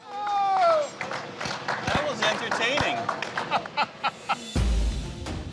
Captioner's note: laughing; dramatic music